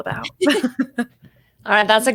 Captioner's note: all laugh